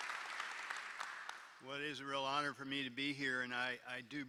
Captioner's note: applause